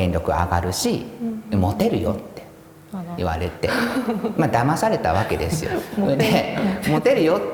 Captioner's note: laugh